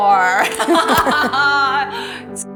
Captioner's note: laughter